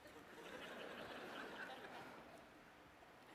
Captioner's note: laughter